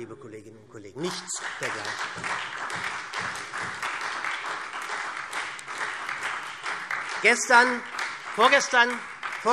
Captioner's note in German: Beifall SPD